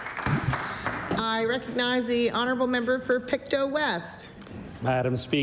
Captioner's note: applause